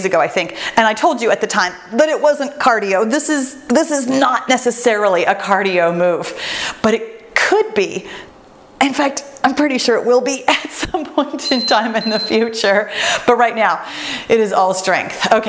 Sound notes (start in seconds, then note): 11.4 timer beeps